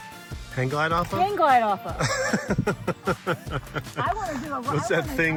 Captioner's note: laughing